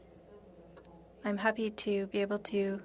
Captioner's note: speaking French